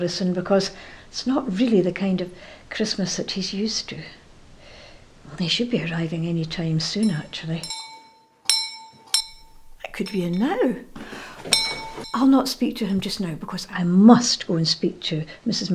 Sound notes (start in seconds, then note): 11.4 doorbell rings